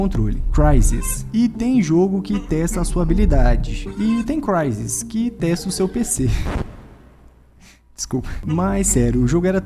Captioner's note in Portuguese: risos, desculpa